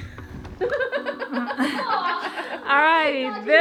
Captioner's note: all laughing